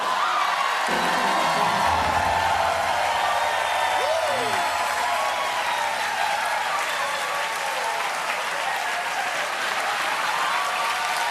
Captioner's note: cheers and applause